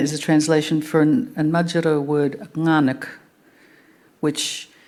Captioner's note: speaking Anmatyerr